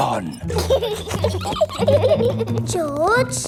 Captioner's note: both giggling